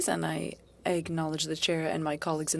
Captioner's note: speaking French